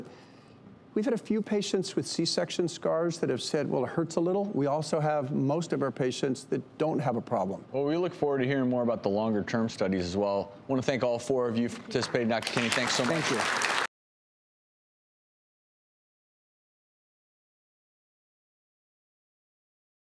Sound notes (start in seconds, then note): 14.0 audience applauds